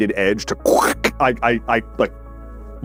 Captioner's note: perfect impersonation of ripping alumium foil